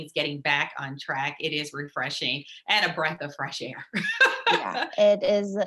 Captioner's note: laughs